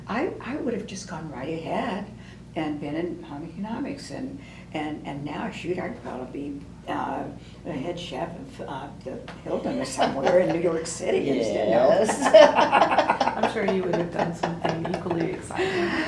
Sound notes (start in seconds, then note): 9.7 laughs